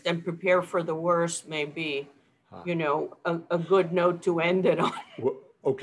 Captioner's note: chuckles